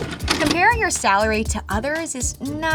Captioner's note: videotape pauses